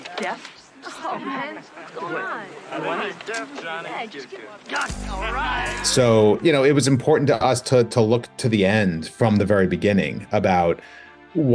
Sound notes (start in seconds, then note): 3.0 crowd chattering in background; 4.8 person in jacket shouting; 5.8 crowd mocking